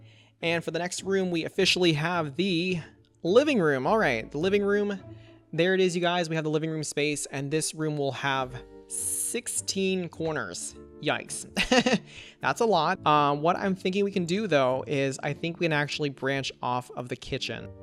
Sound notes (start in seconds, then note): 11.5 laughs